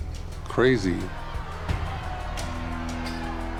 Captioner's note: people shouting